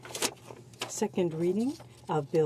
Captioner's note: speaking in French